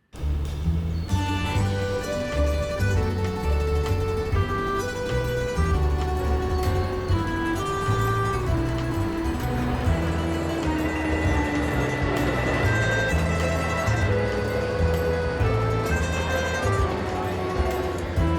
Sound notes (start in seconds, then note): 0.3 wistful music; 9.9 streetcar clatters; 12.4 wistful music continues; 15.5 crowd chatters